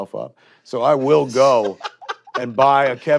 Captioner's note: chuckles